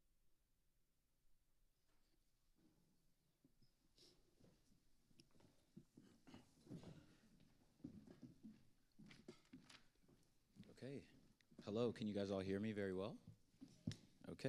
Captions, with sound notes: (footsteps approaching) - Okay. Hello, can you guys all hear me very well?